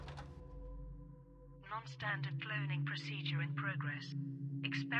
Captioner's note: buttons clattering; AI Voice